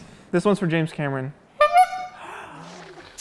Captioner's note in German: hupt